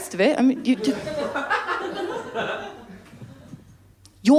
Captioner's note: laughter